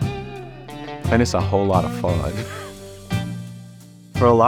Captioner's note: laughs